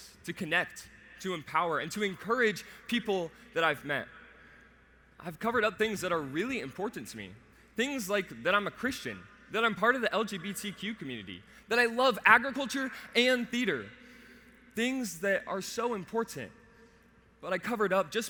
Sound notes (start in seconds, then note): none